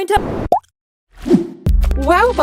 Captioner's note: pop